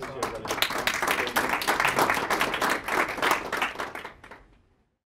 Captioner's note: clapping